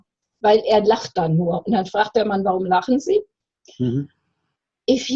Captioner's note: Aping Cameron's condescending tone